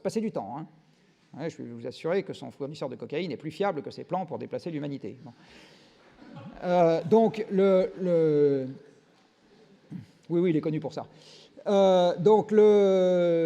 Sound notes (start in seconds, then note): 6.1 laughs